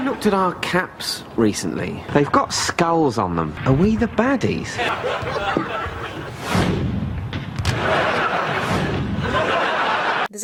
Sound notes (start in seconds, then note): 4.4 audience laughs; 6.0 camera whooshes; 7.6 audience laughs